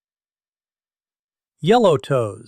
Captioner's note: pause